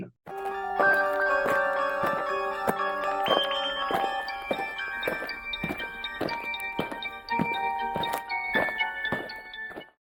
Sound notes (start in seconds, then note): 0.3 eerie music; 4.8 aliens marching